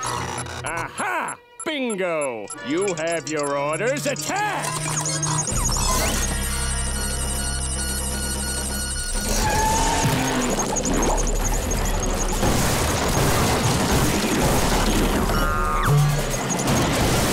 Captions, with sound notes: Aha! Bingo! You have your orders. Attack! [beeping]